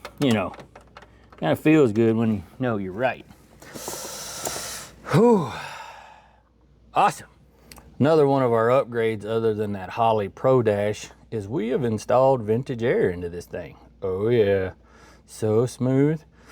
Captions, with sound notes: You know, it kind of feels good when you know you're right. (Inhales) (Exhales) Awesome. Another one of our upgrades other than that Holley Pro Dash is we have installed vintage air into this thing. Oh, yeah. So smooth.